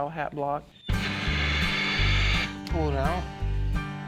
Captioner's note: steam whooshing sound